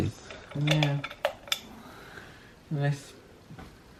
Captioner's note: switch clicks